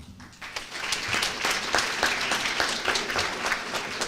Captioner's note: applause